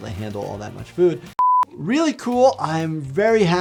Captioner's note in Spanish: pitidos